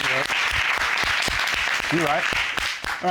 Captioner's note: audience applauds